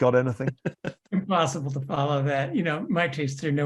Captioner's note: laugh